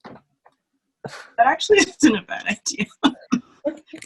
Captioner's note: laughs